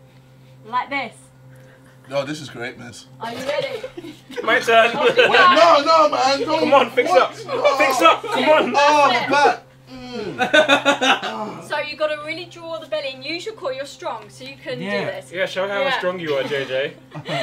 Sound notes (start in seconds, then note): 9.8 JJ mock groaning